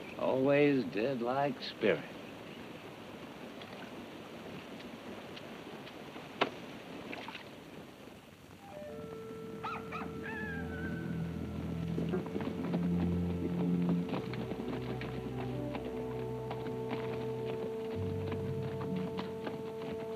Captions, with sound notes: - Always did like spirit. (cock crows) (foreboding music)